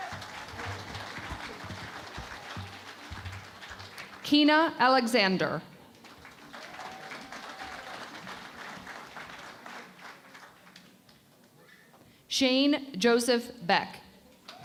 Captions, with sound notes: [ Applause ] Kina Alexander. [ Applause ] Chene Joseph Beck.